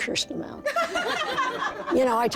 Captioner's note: laughter